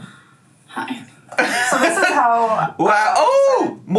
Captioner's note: laughs